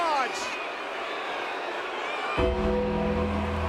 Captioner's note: crowd boos; gong rings